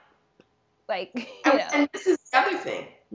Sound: laughing

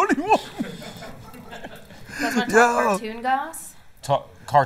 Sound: laughter

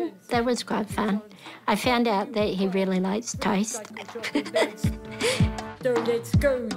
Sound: giggles

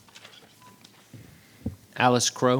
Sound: paper rustling

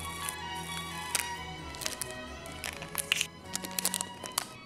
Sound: tape crackles

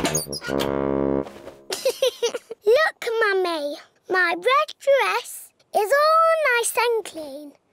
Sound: giggles

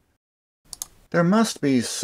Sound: click

